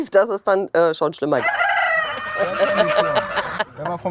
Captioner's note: crows